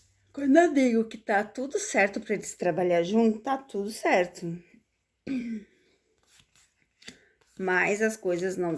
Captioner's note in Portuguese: limpando a garganta